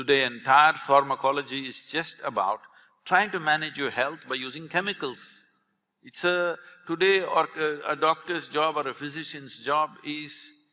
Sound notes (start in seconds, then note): none